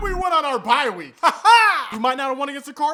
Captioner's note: weird laughing